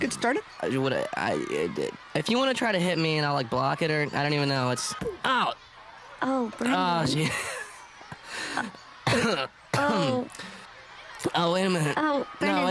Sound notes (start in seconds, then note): 9.0 coughs